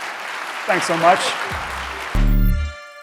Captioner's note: audience applauding; bright music